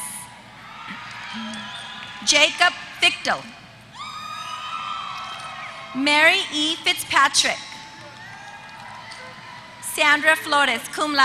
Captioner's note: applause; applause